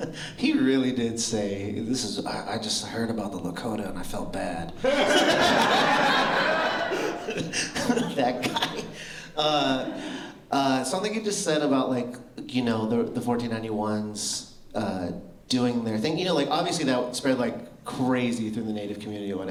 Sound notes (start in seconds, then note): 0.0 laughter; 4.8 laughter